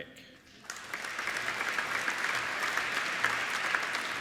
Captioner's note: applauding